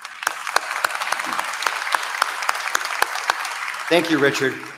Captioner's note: applause